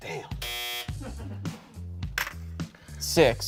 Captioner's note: buzzer buzzes